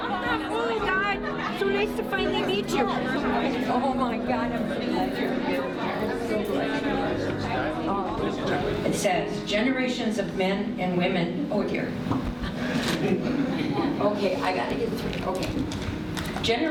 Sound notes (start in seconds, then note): 0.0 people chattering; 5.8 people chattering; 12.4 guests chuckling